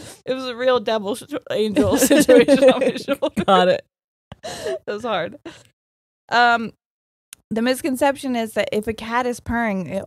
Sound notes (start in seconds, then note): 1.8 both laughing